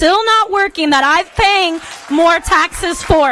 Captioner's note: applause